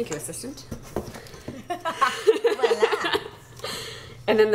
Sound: laughter

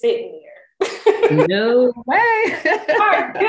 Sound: laughs

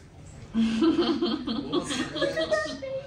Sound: laughing

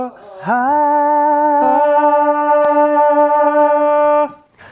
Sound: vocalizes; vocalize

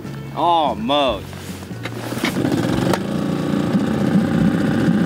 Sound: engine droning; upbeat music continues; engine droning

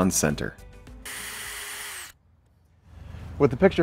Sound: drill whirring, no additional audio

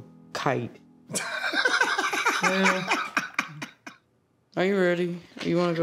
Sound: laughter

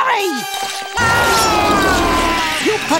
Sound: screaming

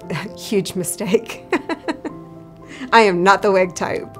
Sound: laughter

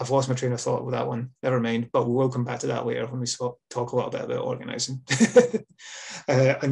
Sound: laughs

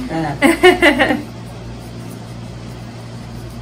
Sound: laughs

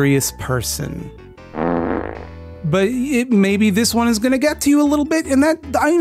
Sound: fart sound effect

